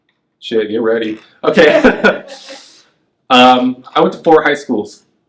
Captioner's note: laughs